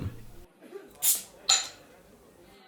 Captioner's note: cap pops